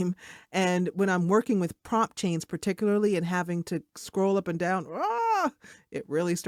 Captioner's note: groans